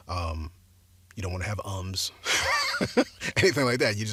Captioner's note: laughs